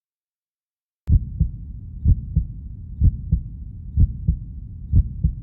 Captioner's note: heart beats